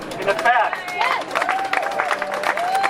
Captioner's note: cheering